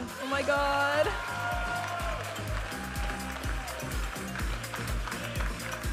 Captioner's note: audience applauding and cheering; vibrant music